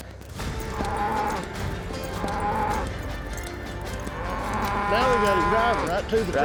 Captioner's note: bull bellows